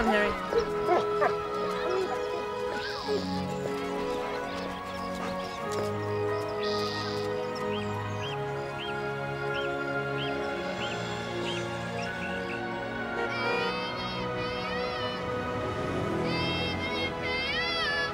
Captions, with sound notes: Come on, Harry. (horn honking)